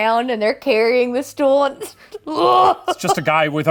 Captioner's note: grunting